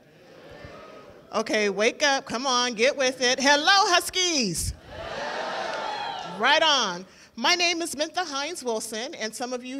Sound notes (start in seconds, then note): 0.3 murmuring; 4.9 cheering